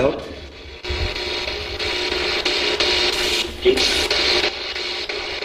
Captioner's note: static buzzing